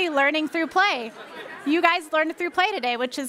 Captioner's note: laughing